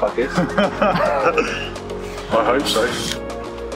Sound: laughter

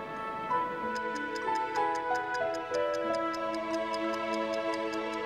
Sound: ticking clock

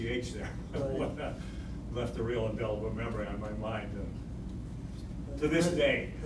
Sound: laughs

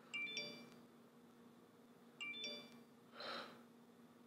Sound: phone notifications toning; breathes

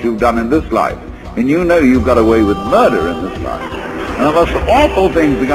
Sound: audience's laughs

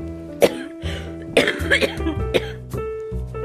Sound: coughing

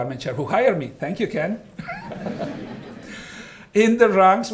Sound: all laughing

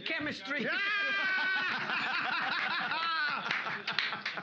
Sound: loudly laughing

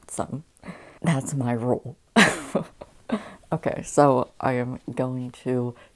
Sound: laughing

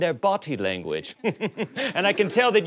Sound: chuckles

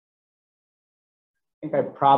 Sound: silence

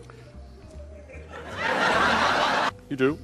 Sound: crowd Laughter

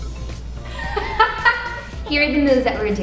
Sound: instructor laughing

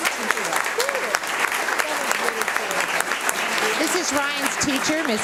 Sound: audience applauds

